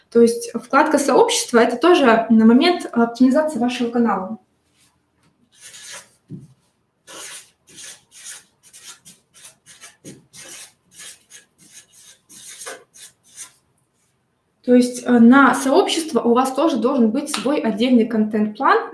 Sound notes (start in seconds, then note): 7.0 скрежет маркера по бумаге